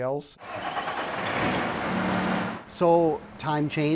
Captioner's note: engine roaring